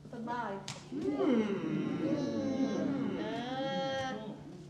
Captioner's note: hmmmm